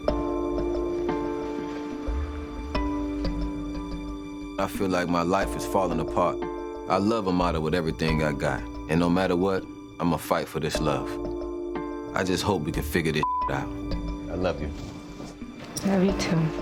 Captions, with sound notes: - I feel like my life is falling apart. I love Amara with everything I got. And no matter what, I'm gonna fight for this love. I just hope we can figure this (beep) out. I love you. - I love you too.